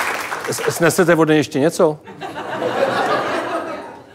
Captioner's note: laugh